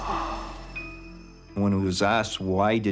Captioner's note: sighs